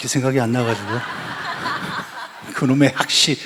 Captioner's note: laugh